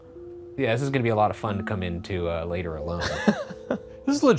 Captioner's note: laughing